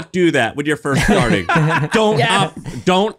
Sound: laughing

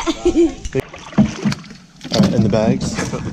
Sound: laughs; water splashes

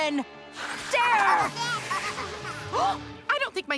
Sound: giggling

